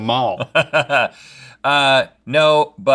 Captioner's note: laughs